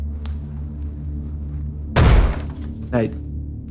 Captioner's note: banging